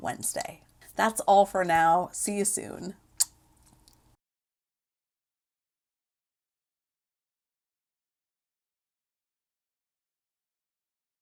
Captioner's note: Smooch